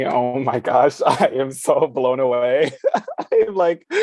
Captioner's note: chuckles